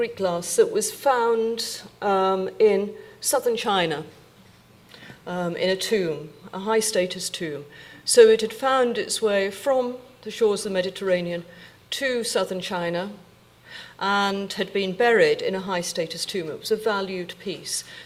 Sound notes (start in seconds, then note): none